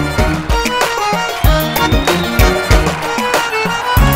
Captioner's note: Clapping